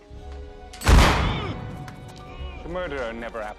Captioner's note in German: Stöhnt